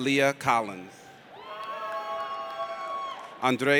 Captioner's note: audience cheers